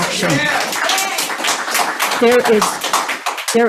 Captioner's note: audience applauds